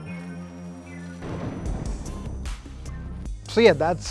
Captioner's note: thunder claps